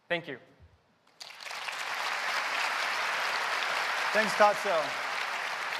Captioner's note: applause